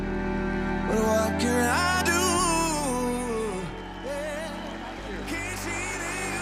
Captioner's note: applause